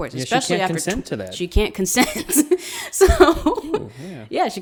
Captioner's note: laughs